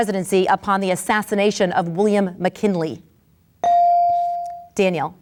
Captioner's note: bell dings